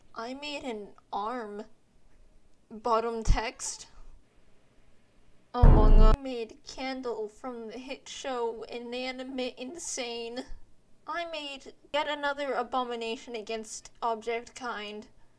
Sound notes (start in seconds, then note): 5.6 gavel